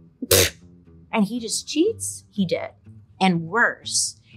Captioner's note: scoffs